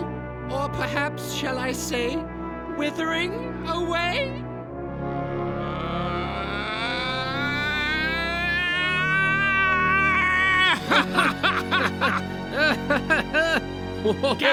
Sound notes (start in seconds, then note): 5.8 Gaylord_Steambath laughs loudly; 10.8 Milky_Dad nervously laughs along